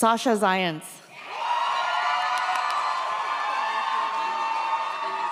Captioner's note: audience cheers